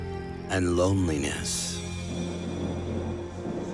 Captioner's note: thunder clap